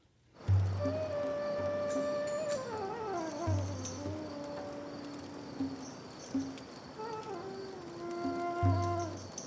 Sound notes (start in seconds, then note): 0.7 brooding music; 1.3 insects chirping